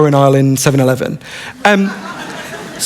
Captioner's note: laughter